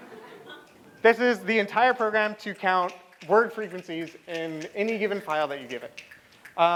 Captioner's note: laughter